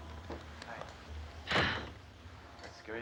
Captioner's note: exhales